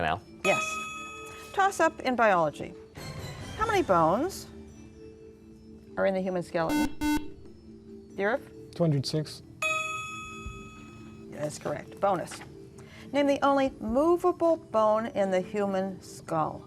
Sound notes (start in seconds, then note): 6.7 buzzer; 9.6 ding